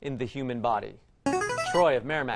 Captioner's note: player buzzer